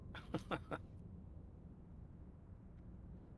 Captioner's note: laughs